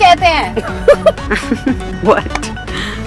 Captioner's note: Everyone laughs